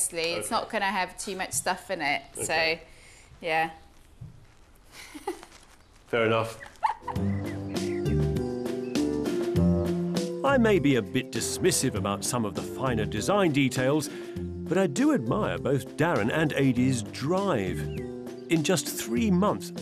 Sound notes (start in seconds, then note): 4.4 aide laughing; 6.6 gentle music